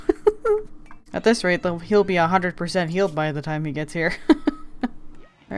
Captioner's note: laughs; laughs